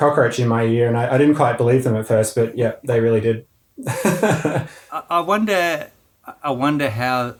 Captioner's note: laughing